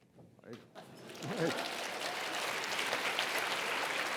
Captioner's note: audience applauds